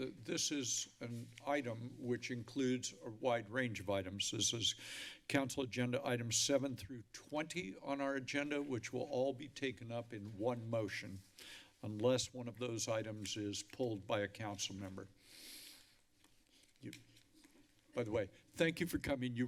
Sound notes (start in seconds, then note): 15.2 inhales